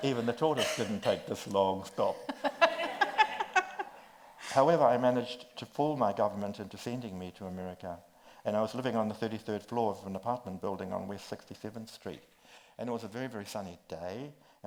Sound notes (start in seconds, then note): 2.2 laughs